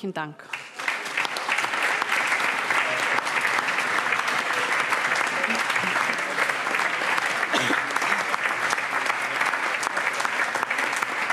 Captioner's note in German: Allgemeiner Beifall